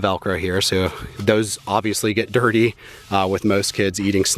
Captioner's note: chuckles